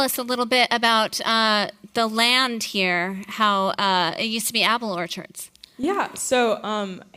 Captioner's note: none